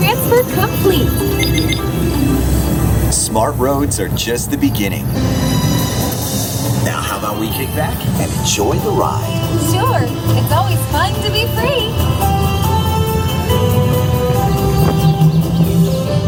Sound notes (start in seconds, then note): 1.8 electronic beeping; 13.3 uplifting music